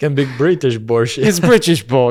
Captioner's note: laughs